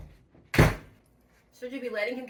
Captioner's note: door slams